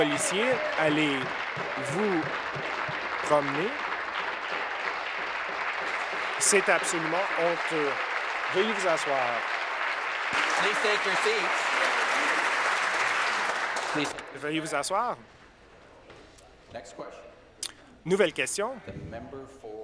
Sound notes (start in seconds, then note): 4.8 applause